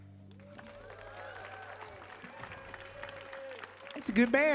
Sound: audience applauding

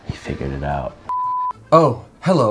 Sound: beep

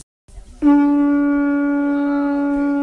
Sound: conch shell sounds

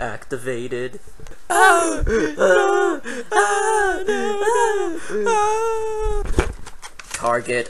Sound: screaming sounds

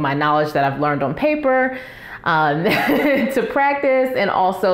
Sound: laugh

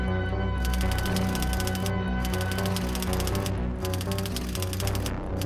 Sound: typewriter clicking

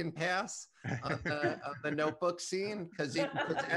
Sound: laugh

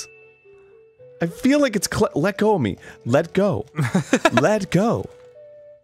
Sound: laughing

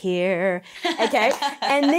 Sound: laughs

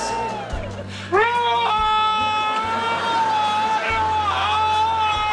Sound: screams

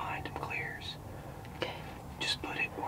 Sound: whispering

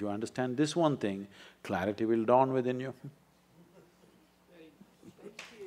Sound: applause

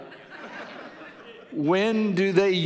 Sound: audience laughing

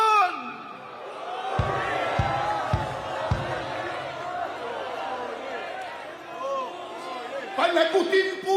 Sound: crowd chants: “Identify them!”

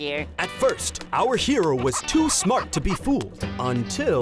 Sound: none

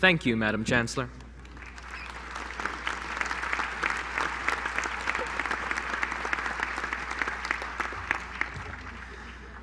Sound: applause

